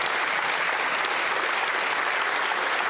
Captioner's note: some Applause